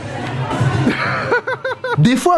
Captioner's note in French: rires